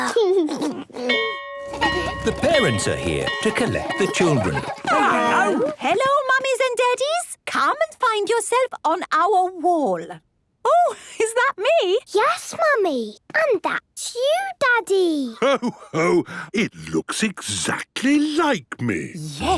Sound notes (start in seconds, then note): 0.0 giggles; 1.2 bell ringing